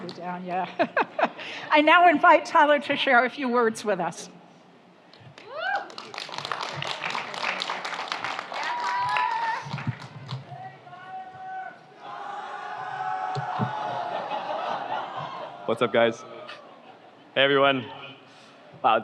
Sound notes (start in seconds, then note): 0.7 chuckles; 5.4 audience applauds; 6.5 audience cheers; 12.0 audience cheers